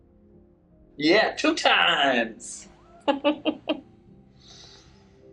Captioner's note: laughs